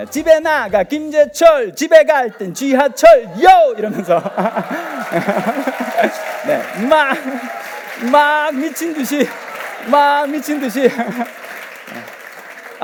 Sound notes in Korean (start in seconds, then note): 4.3 박수와 환호